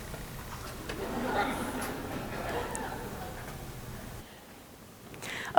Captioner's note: laughing